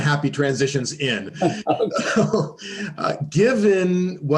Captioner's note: laughter